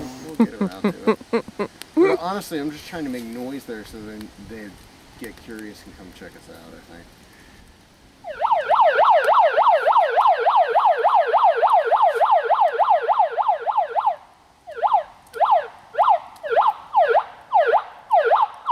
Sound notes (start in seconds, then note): 0.3 chuckling; 8.2 megaphone siren blaring; 14.8 megaphone siren pulsating